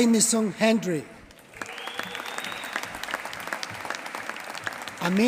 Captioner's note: applause